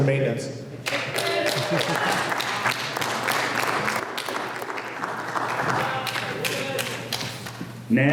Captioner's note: applause